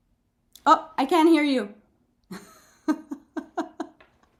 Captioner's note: laughing